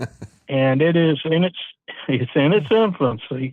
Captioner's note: laughing